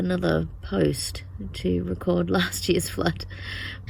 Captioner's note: scoffs